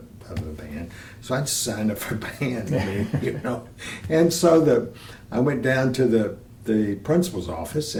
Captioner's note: laughter